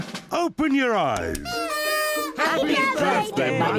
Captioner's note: party horns blowing